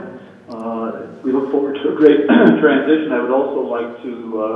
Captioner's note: clearing throat